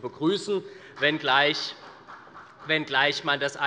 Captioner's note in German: Beifall des Abg